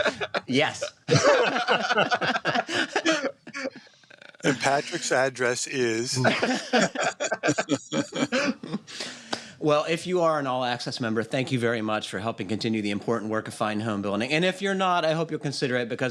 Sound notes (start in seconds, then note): 0.8 laughter; 5.6 laughter